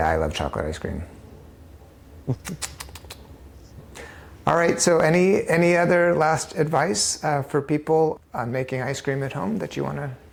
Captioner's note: smacks lips